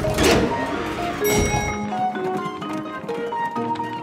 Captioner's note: dinging